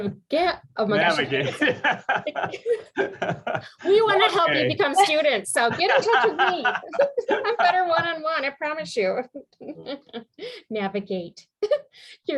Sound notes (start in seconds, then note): 1.2 laughter